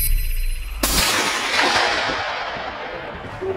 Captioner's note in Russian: выстрел